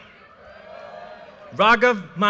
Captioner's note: audience cheers and applause